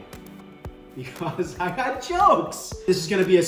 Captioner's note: laughs